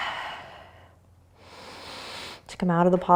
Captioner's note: exhaling; inhaling